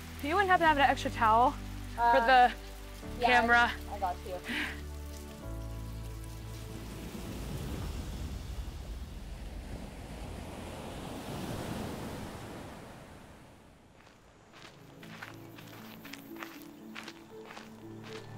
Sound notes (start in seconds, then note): 6.6 waves hiss and rush onto shore; 13.9 footsteps crunching, music brightens